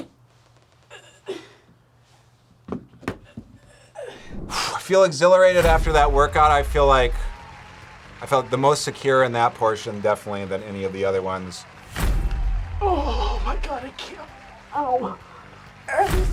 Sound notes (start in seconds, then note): 0.2 grunts; 3.6 sighs